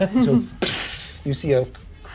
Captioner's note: imitates explosion